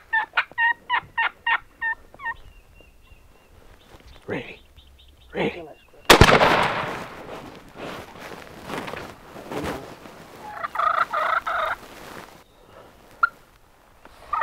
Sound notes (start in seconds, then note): 6.1 gunshot; 10.4 turkey calling